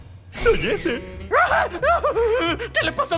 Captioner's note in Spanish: Giovanni grita